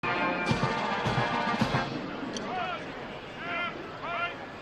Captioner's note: military commands off mic